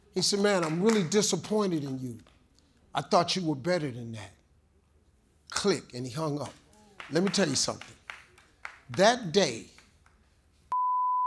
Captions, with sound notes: He said, "man, I'm really disappointed in you. I thought you were better than that". Click. And he hung up. (audience member claps) Let me tell you something. That day (beep)